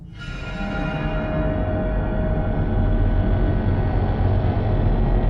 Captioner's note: eeire metallic vibrating